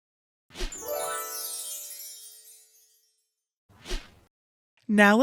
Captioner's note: magic sparkling